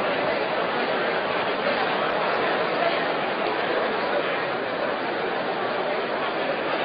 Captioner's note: random chatter